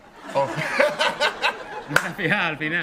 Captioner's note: laughs